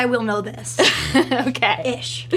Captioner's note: laughs